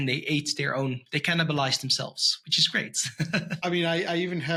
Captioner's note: chuckles